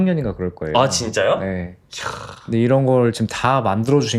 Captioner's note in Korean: 콧방귀